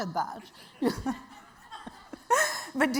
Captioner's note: audience laughing